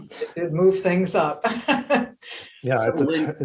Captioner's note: laugh